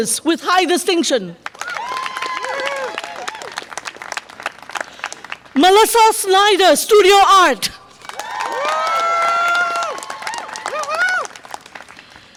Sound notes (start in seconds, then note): 1.4 audience applause and cheer; 7.9 audience applause and cheer